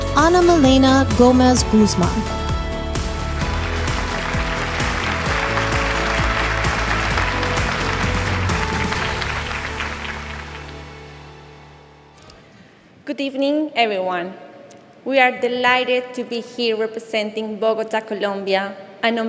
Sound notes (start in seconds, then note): 3.0 audience applauding; 3.5 upbeat music continues